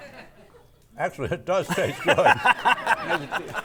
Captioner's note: audience laughing